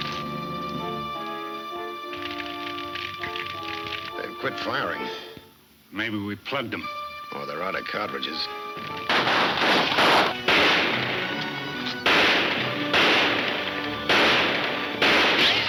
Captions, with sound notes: - They quit firing. - Maybe we plugged 'em. - Or they're out of cartridges. (gunshots banging)